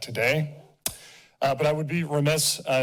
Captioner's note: smacks lips